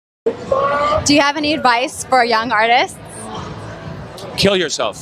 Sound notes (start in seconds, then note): 0.3 people talking in background